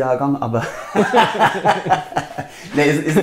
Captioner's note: laughs